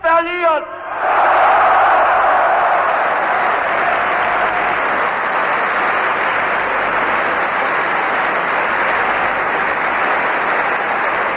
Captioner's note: screams: "Yes", Applause